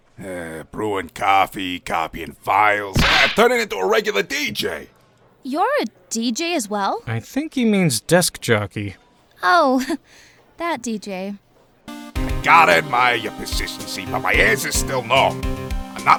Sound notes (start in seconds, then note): 7.4 whispering